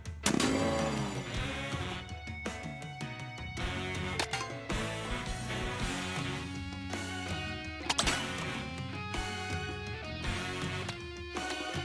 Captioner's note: game sounds